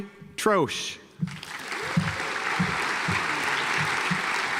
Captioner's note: audience applauds